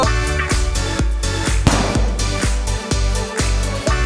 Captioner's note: gun firing